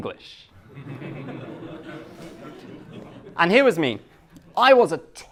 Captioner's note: class laughs